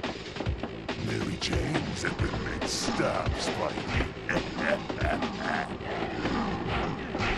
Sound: laughs

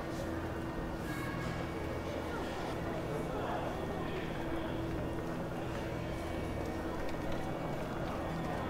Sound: noise of people in museum

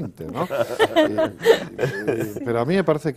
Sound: ríen

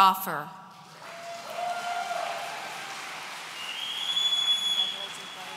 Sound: audience cheering

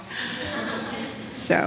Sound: audience laughs

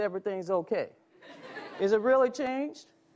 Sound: audience laughs

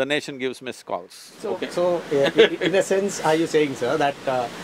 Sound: Sadhguru laughs

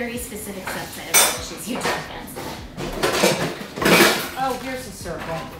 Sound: pots banging drowns out speaker

